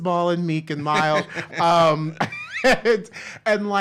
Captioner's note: laughs